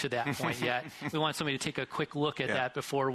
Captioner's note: interviewer chuckles